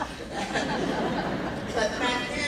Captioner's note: laughing